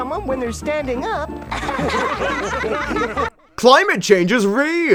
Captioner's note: laughs